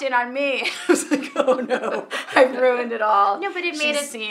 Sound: laughing

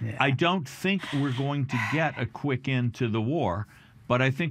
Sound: laughing

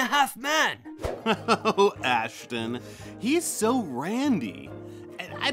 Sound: laughs

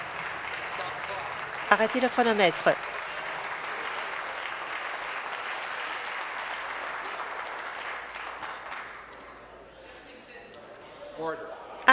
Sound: some Applause

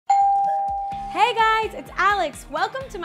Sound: doorbell rings

